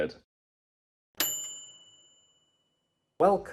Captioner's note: bell dinging